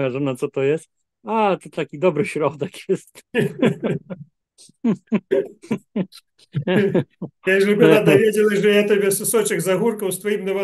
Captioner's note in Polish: śmiech